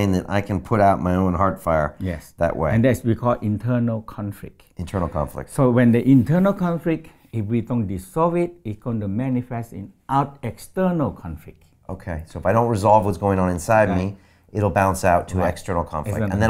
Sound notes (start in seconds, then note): none